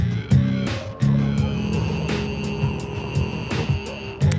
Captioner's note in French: grognement